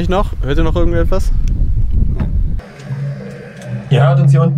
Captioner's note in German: Rauschen